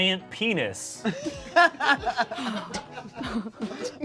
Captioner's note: laugh; laughs